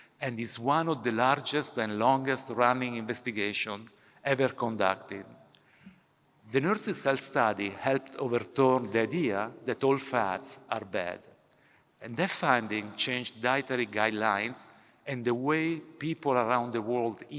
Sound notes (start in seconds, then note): none